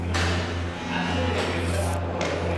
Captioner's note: lock buzzes